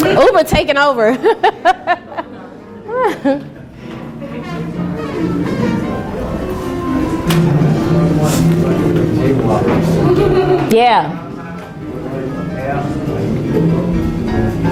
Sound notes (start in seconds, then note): 0.0 laughing; 2.9 laughs loudly; 7.6 students murmuring